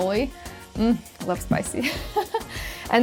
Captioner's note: laughs